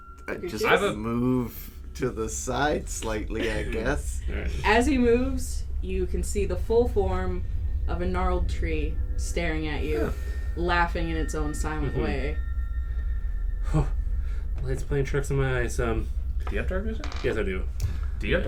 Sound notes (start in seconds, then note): 13.7 lets out a breathy "whoa"